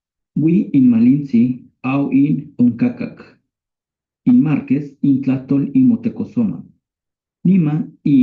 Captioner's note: recording in Nahuatl Plays